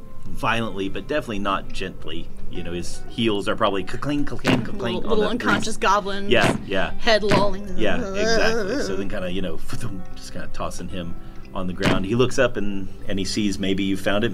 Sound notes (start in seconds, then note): 3.9 cla-cling, ca-cling, ca-cling